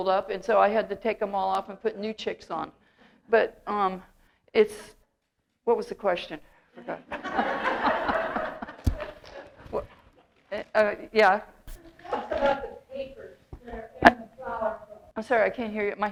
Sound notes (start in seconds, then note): 7.0 audience laughter